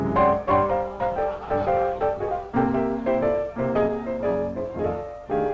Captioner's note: bright piano music playing; guests chatting faintly